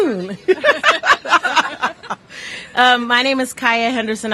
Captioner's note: laughter